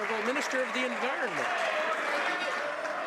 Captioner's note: some Applause